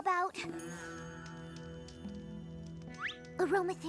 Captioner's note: fire crackling